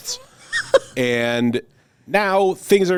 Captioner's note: laughs